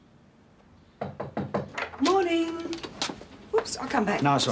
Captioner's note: knock at door